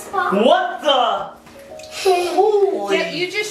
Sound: giggles

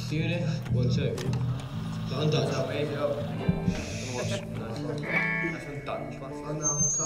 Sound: chatter; feedback

